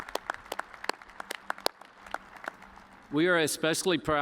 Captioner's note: applause